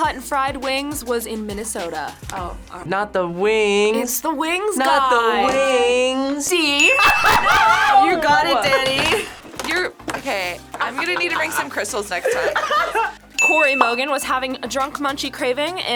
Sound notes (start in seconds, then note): 6.9 laughs